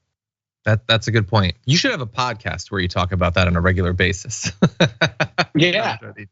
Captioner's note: laugh